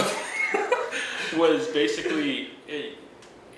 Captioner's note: laughing